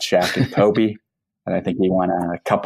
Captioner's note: laughs